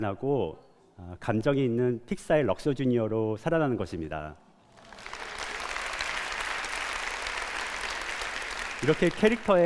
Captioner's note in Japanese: 拍手